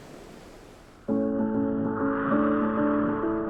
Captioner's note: wind blowing